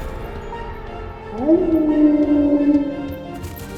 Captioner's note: Mischa howls